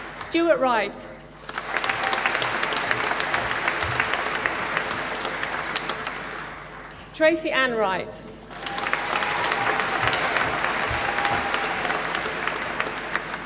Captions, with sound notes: Stuart Wright. (APPLAUSE) Tracey Ann Wright. (APPLAUSE)